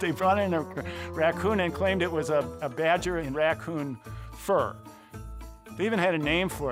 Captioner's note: laughs